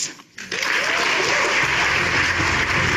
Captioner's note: audience applauding; dramatic upbeat music